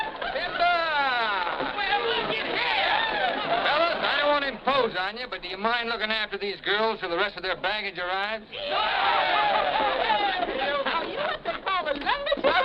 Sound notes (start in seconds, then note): 8.5 men shouting